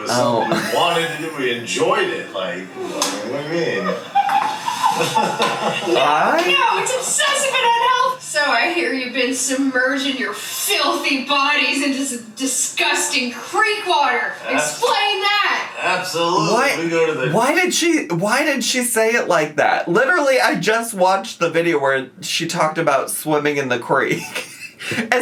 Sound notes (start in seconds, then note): 3.2 laughing